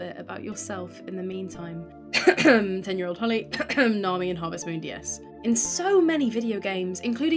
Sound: ahem

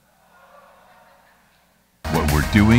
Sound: audience murmurs

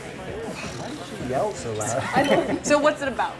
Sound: voiceover

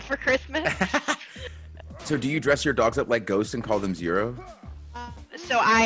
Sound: laugh

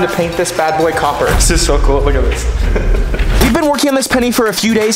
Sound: laughs

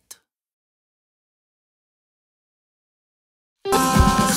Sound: silence

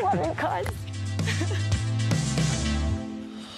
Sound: laughs

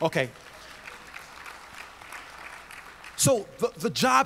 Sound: audience applauds

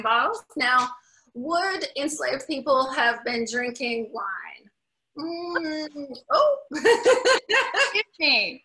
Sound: laughs

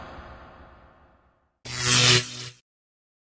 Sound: electric zap!

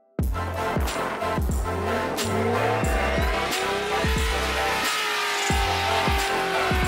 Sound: upbeat music; car engine roaring

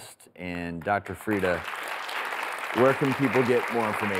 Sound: audience applauds

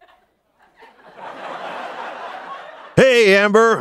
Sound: laughter

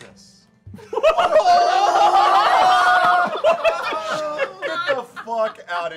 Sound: laughter

